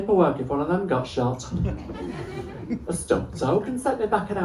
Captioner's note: laughter